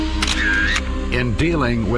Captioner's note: camera clicking